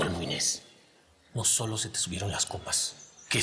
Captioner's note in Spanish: none